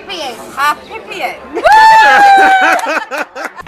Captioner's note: laughter